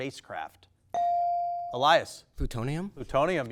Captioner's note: bell dings